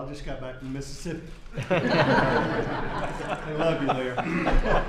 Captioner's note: laughter